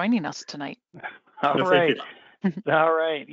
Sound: laughs

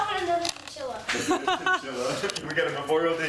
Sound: laughter

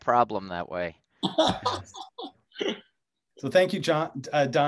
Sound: laughter

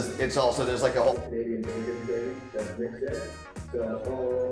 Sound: murmurs

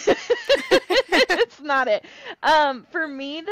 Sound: laugher

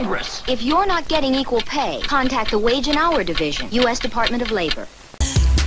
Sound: batgirl voiceover

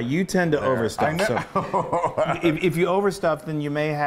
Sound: laughing

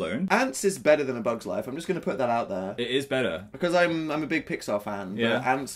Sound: none

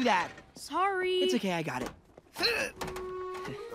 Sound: grunting

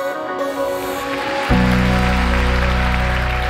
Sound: upbeat Music; clapping

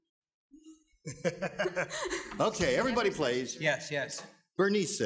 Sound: laughs

